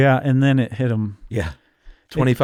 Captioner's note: laughs